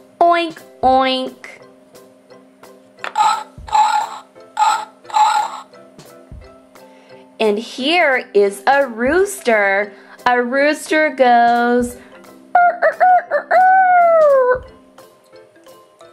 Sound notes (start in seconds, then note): 3.1 pig Sound